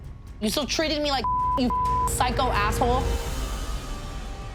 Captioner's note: beep; tense music